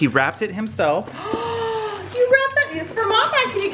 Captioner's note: gasps